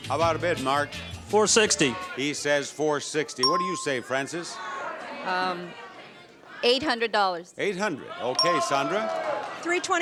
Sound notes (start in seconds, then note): 3.4 bell dings; 5.7 audience members shout prices; 7.9 bell dings